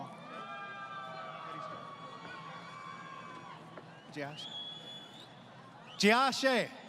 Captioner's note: crowd Cheering